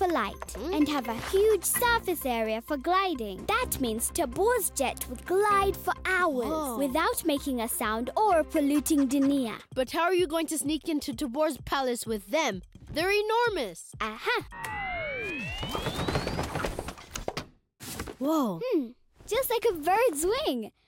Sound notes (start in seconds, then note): 14.6 whirring